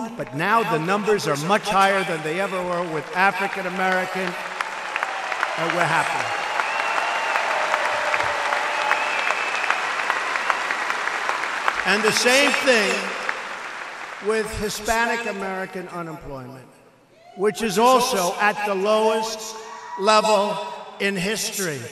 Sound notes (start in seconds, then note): 7.6 applause